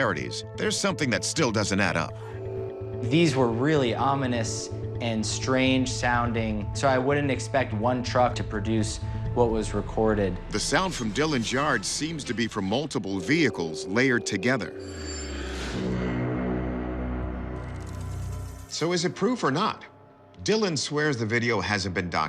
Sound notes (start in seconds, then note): 16.1 horn-like sound